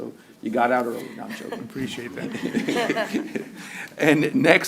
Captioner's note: laughter